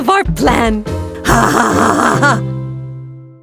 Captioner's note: laugh